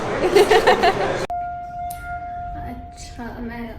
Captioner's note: laughing; elevator bell rings